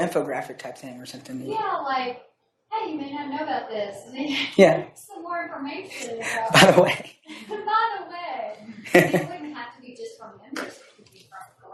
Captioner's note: laughs